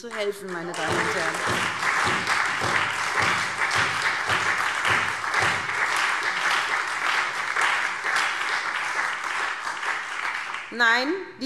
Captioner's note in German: Beifall SPD und Freie Demokraten